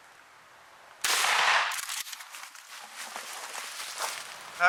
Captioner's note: gunshot